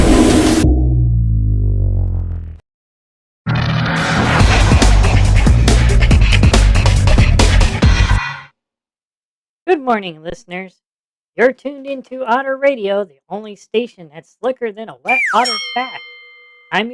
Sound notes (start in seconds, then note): 10.0 in a deep, radio voice